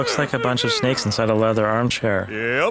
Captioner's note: grunts as he flexes his sick calf muscles